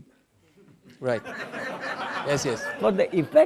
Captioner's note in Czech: smích